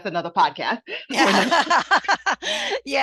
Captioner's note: laughter